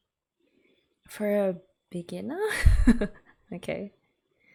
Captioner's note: laughs